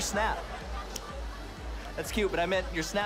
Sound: snaps fingers

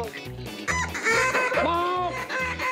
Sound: duck calls

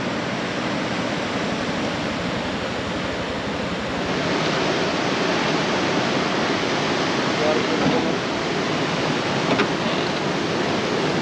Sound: boat enging idling

